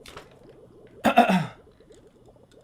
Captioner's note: clears throat